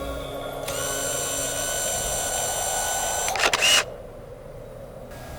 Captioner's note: camera sound